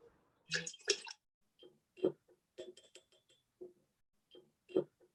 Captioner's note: swishing and tapping